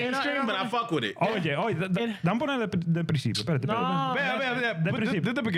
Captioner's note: speaking Spanish